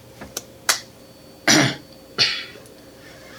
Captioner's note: justen clears throat